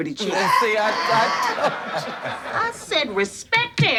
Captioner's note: audience laughs